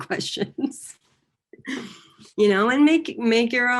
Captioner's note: laughing